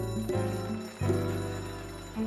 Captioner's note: bell rings